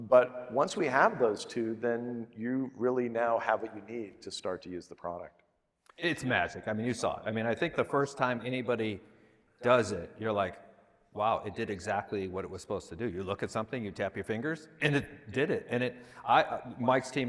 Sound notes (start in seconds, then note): none